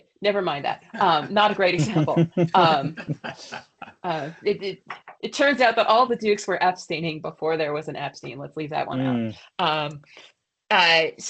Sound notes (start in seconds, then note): 0.9 laughter